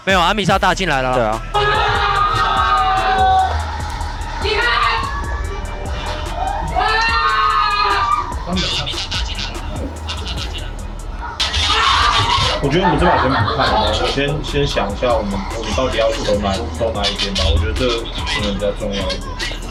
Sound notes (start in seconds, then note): 1.5 TSW Staff Cheering